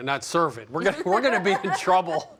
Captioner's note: laughing